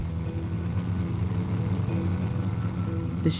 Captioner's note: plane propeller whirring; ominous music